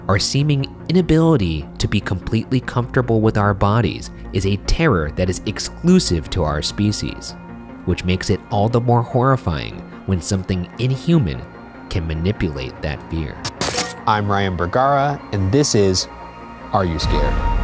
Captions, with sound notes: Our seeming inability to be completely comfortable with our bodies is a terror that is exclusive to our species, which makes it all the more horrifying when something inhuman can manipulate that fear. (electrical buzzing) I'm Ryan Bergara and this is, Are You Scared?